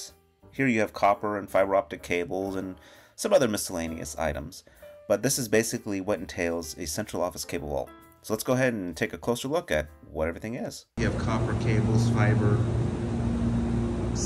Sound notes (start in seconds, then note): 11.0 fan Noise